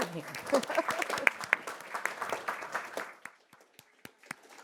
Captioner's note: audience applauding